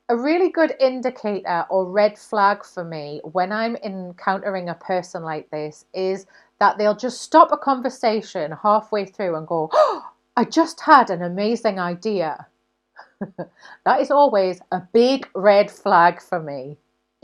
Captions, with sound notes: A really good indicator or red flag for me, when I'm encountering a person like this is that they'll just stop a conversation halfway through and go (gasps) I just had an amazing idea. (laughing) That is always a big red flag for me.